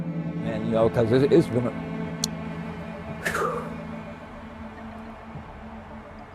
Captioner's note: somber music; sighing